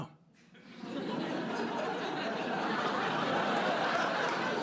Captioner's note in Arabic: ضحك